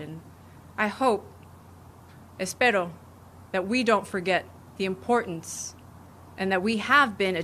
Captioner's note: speaking spanish